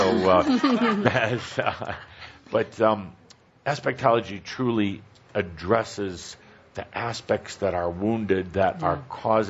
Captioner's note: chuckles